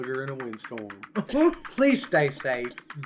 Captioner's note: chuckles